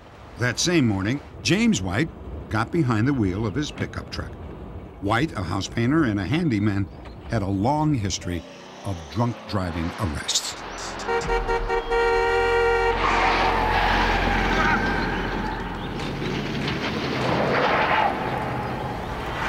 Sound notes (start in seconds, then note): 10.8 honking; 12.8 tires squealing